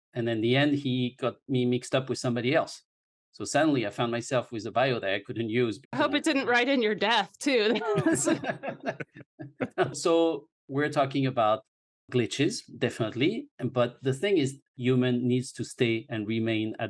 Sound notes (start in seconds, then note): 7.5 laughing